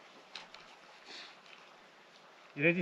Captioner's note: wind